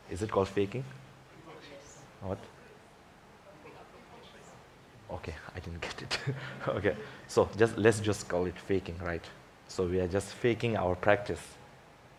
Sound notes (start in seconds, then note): 3.4 people murmuring; 3.5 woman murmuring; 6.0 chuckles